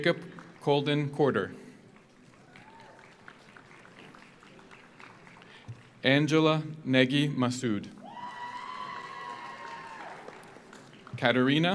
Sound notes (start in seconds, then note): 0.0 audience applauds; 1.9 audience applauds; 2.4 audience cheers; 8.0 audience cheers; 8.1 audience applauds